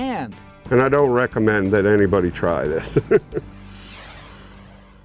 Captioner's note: laughs